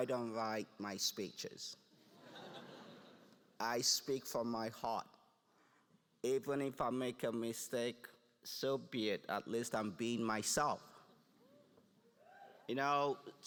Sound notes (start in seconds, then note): 2.2 laugh